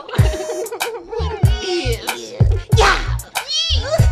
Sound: giggling

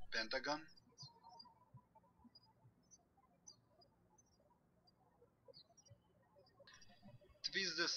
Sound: birds chirping

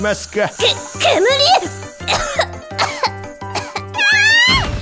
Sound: cough

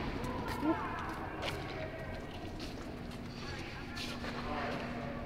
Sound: background chatter

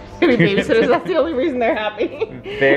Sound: laughs

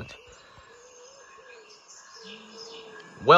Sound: awkward silence

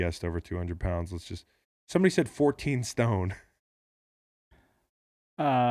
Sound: laughs

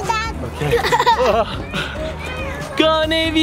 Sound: laughs

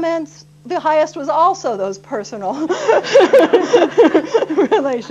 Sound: laughter

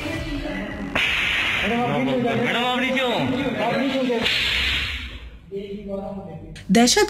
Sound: shooting sound

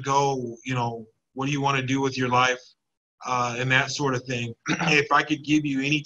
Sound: clears throat

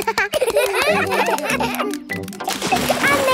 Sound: children laugh

